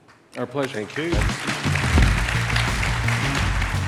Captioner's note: applause; electronic music